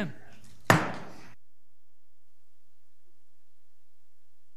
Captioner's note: gable banging